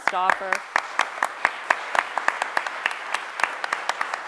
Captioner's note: applause